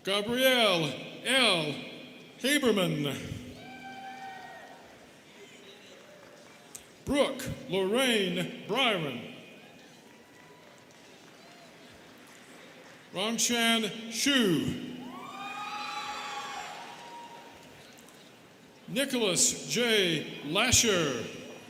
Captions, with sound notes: Gabrielle L. Haberman. (students cheering) Brooke Lorraine Bryan. (students clapping) Rongxian Xu. (students cheering) Nicolaus J. Lasher.